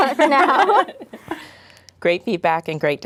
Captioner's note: laughing